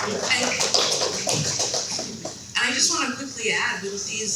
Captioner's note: people clapping